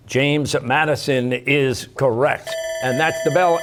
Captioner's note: bell ringing